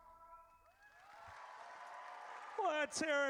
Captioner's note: audience cheers